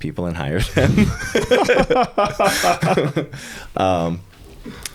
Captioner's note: both laughing